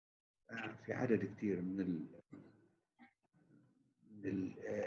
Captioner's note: chattering